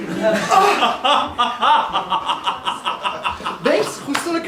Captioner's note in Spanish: Risas